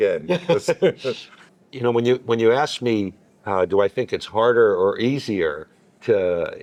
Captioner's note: laughing